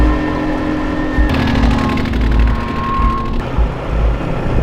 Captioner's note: ATV rumbling